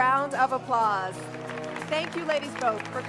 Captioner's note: applause